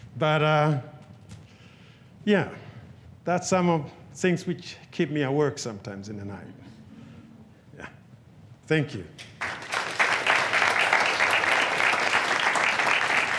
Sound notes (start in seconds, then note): 9.2 audience clapping